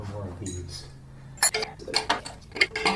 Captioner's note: wrenches clattering